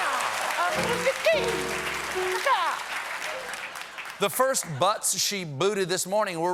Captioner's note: cheers and applause